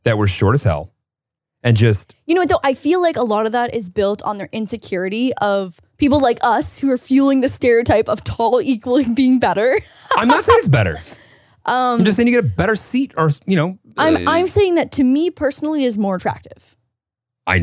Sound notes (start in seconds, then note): 9.8 laughs